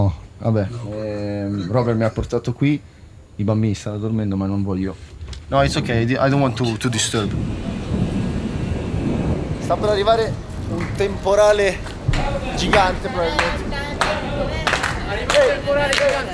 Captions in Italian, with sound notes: Robert mi ha portato qui. I bambini stanno dormendo, ma non voglio... [tuoni] Sta per arrivare un temporale... Gigante, probabilmente...